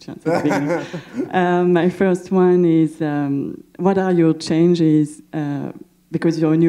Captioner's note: laughter